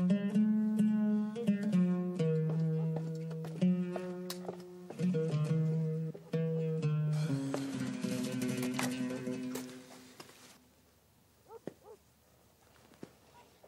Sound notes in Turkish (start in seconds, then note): none